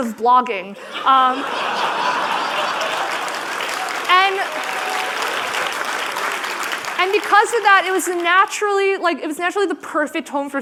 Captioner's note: laughter